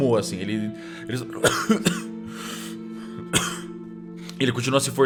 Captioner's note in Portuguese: tosse